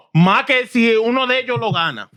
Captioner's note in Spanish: Hablando en idioma extranjero